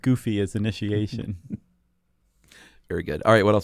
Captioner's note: laughter